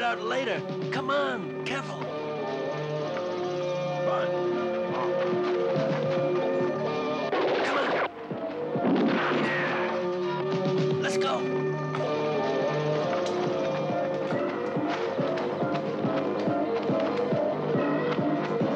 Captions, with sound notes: We'll work it out later, come on, careful. (dramatic music) (guns blasting) Let's go. (dramatic, suspenseful music)